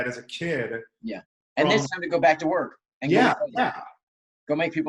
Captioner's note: murmurs